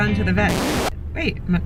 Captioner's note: record scratching